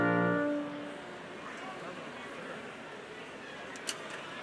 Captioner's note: crowd chattering